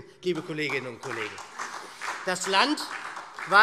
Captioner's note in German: Beifall SPD